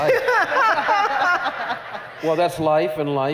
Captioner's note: laughter